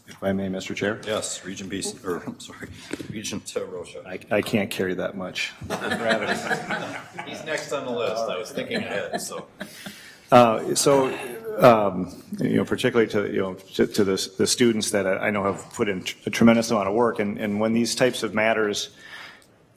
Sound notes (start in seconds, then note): 5.6 board members laughing